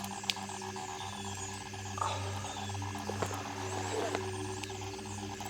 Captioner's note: glitchy Buzzing Continues